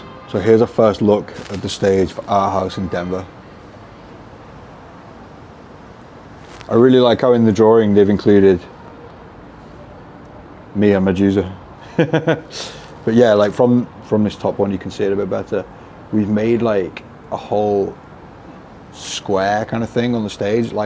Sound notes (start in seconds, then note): 11.8 laughs